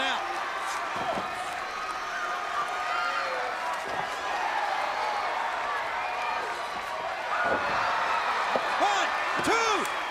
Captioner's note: crowd chatter